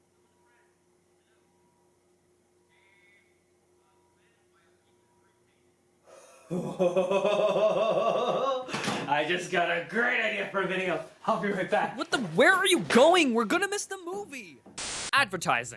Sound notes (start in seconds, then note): 6.2 laughs in ho ho hos; 14.7 static